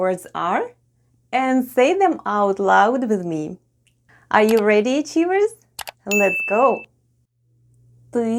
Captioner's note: click & ding sounds